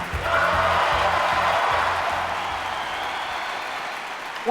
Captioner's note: crowd cheering